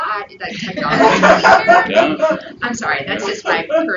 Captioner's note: audience laughs